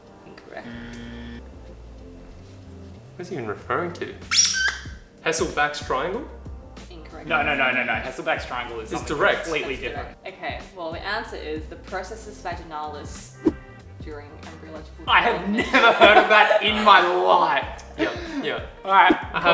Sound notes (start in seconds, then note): 4.2 squeaks